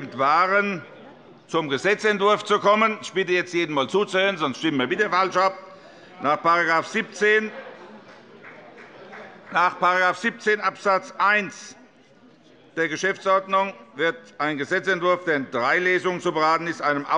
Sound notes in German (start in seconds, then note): 6.6 Heiterkeit bei der SPD und der LINKEN